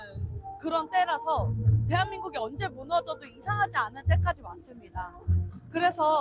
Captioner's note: Korean